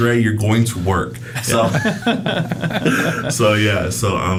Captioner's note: group laughs